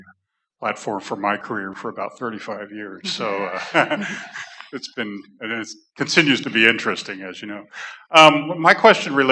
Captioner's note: laughter